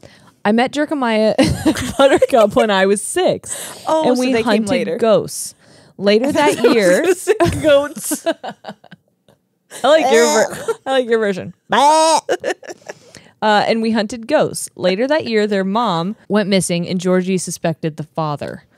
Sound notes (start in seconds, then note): 1.4 laugh; 8.0 laughs; 11.7 imitates bleating; 11.9 laughs